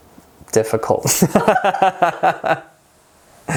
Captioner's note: laughing